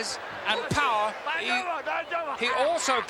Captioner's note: Mr. Fuji speaks Japanese